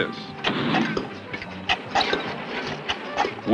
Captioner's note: rumbling and popping noises